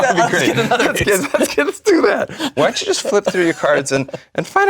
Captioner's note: laugh